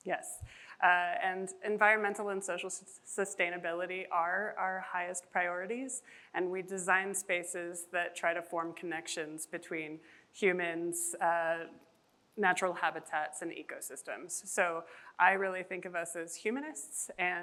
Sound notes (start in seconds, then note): none